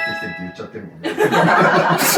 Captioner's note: laughs